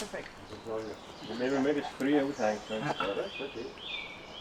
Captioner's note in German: auf Schweizerdeutsch